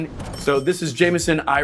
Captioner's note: cash register dings